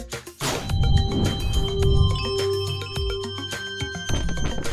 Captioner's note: crystal chimes